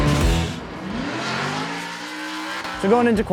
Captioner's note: engine revving